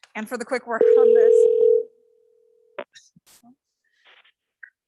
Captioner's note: phone ringing